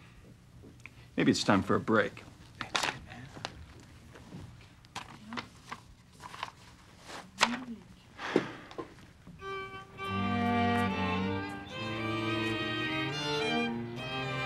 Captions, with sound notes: maybe it's time for a break. (sighs) (strings music)